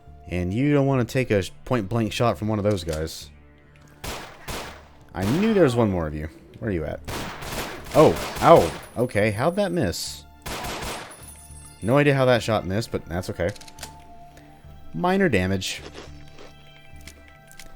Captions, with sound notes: and you don't want to take a point-blank shot from one of those guys. *Vulture pew pews* I knew there was 1 more of you; where are you at? *gunfire exchange* Oh, ow! Okay, how'd that miss? *Glock pew pews* No idea how that shot missed, but that's okay. Minor damage.